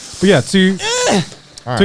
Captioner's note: shrieking